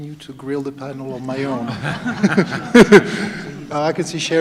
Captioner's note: laughter